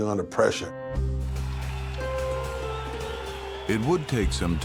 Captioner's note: cheers and applause